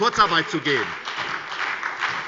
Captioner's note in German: Beifall bei der SPD